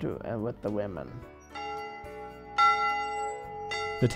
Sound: loud clang

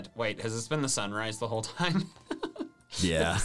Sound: laughs

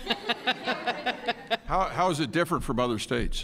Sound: laughter

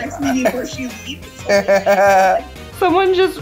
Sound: laughing

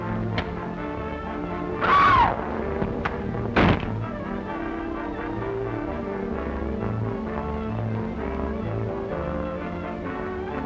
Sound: screams

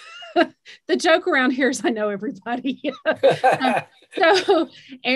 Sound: laughs

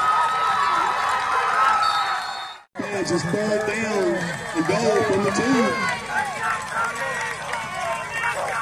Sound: applause

